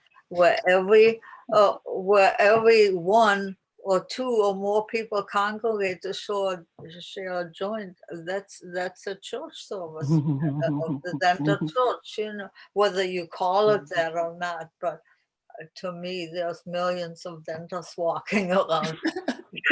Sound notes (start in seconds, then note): 10.0 laughs; 18.8 laughter